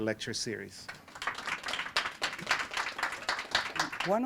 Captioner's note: applause